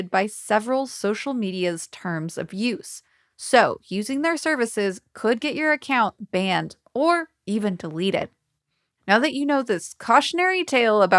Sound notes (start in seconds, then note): none